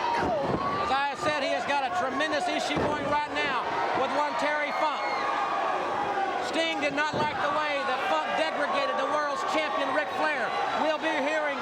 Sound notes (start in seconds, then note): 1.5 crowd chatter; 5.7 crowd chatter